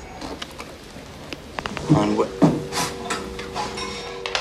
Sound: dial tone

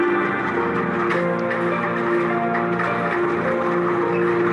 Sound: buffaloes clomping

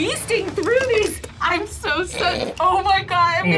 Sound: snorts

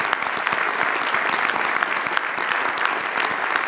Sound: audience applauds

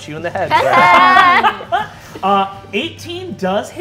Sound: players laughing

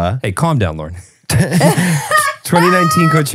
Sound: all laughing

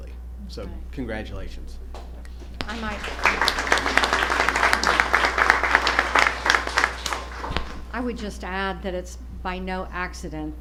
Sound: applause

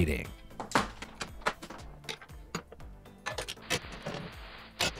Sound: objects clattering

